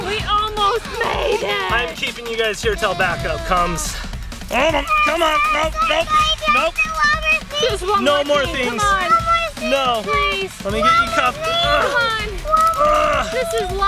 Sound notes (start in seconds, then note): 4.7 screams; 4.7 dad grunts